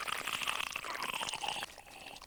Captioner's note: growling